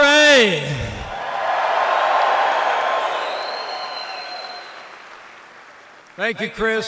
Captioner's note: applause